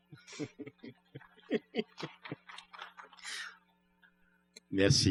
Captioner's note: laughs; applause; speaking french